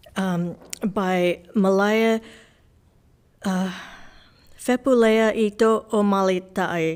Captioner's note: gasps